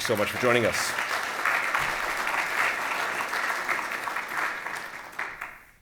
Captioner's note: applause